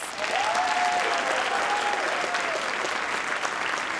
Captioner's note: audience applauding